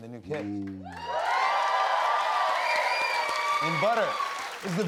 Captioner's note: cheers and applause